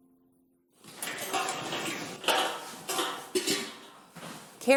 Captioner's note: bucket clanking